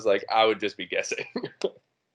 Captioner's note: chuckling